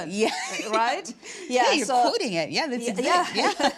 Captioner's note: laughing